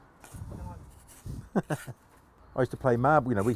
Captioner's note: chuckles